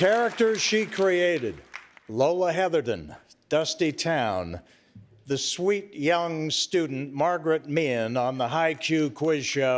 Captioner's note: cheers and applause